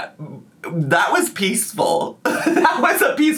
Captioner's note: laughs